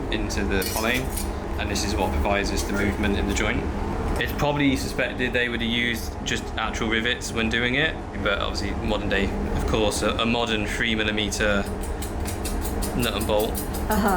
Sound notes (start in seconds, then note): none